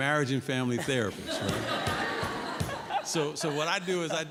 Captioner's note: laughter